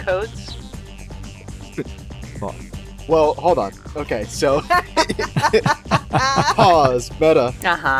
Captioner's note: laugh